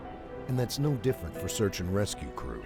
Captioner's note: voiceover